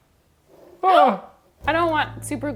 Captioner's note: gasping